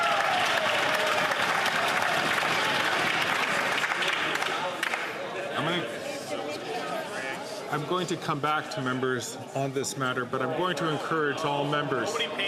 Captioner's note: some Applause